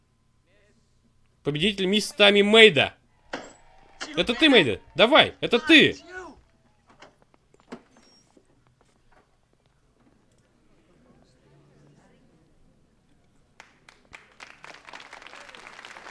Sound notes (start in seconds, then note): 13.5 applause